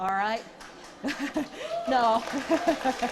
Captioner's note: applause